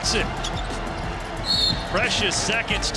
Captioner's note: whistle blowing